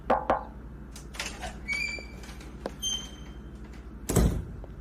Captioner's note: Emilia knocks; door opens; door closes